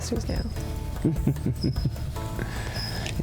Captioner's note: chuckles